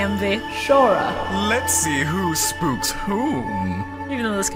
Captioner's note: Pegasus voice